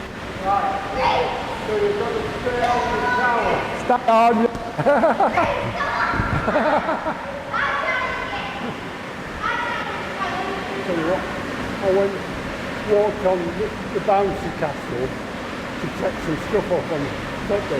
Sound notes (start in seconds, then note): 6.2 laughter; 7.6 children playing